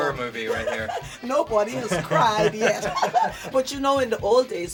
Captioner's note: laughter